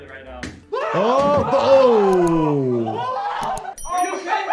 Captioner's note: vloggers screaming